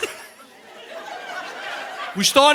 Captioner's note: audience laughing